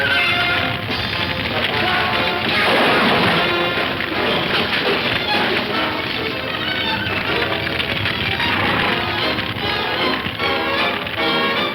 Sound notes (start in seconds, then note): 1.6 objects crashing; 4.9 dramatic music; 4.9 fire crackling